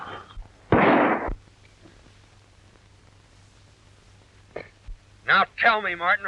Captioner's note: gun shot